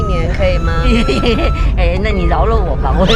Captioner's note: wholehearted laughter